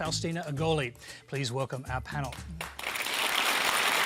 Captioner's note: applause